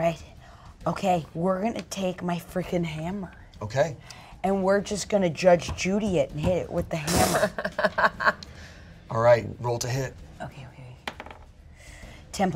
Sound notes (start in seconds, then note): 7.2 laughs